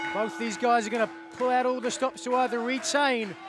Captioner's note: bell ringing